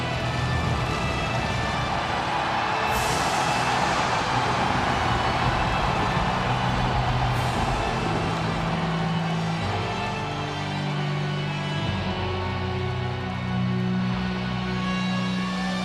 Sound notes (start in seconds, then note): 2.9 audience continues cheering; 8.6 ominous music continues